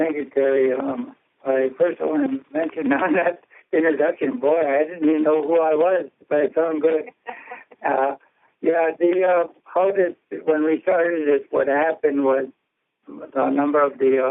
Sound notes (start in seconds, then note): 6.8 laughter